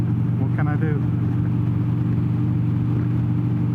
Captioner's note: engine roaring; engine rumbling